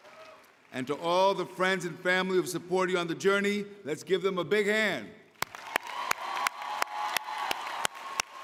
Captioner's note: cheering